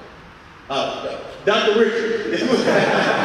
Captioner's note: audience laughing